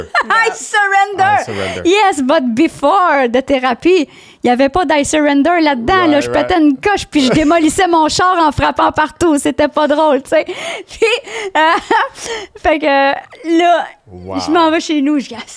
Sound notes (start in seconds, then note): 4.2 in french; 10.6 laughing; 13.4 in french